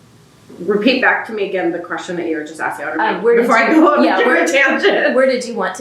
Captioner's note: laughs